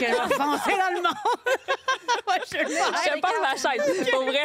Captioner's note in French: rires